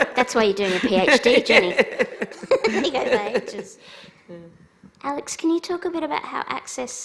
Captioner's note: laughs